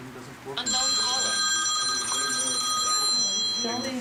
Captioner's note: phone rings